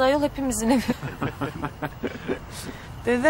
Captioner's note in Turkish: Gülüyorlar